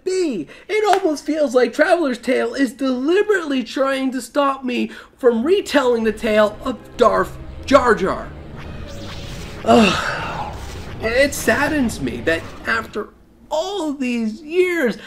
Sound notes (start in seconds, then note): 9.7 deep sigh